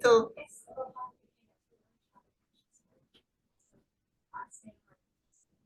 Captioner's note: speaking faintly